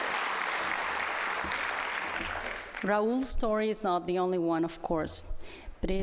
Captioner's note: applause